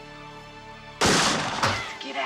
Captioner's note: gun firing